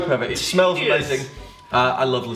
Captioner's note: laughs